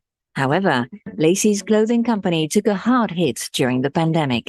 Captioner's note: speaking in foreign language